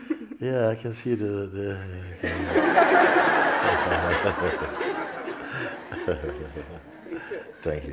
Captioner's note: smiech